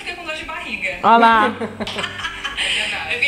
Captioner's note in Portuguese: risos